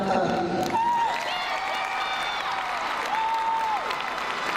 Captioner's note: crowd cheering